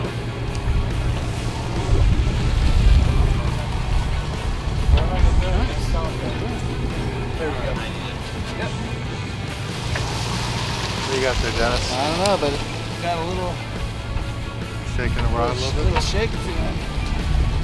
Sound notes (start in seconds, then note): 4.7 indistinct chatter in background